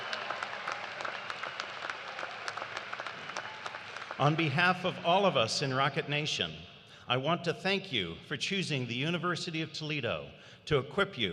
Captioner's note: cheers and applause